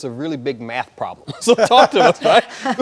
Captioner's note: laughing